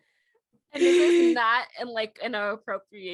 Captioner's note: more laughter